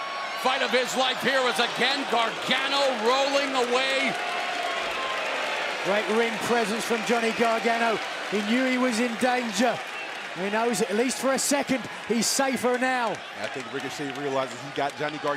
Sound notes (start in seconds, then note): 6.8 cheers and applause